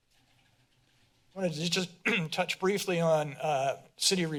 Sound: clears throat

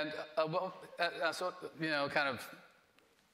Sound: stammering

